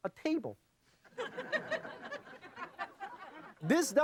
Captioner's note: audience laughing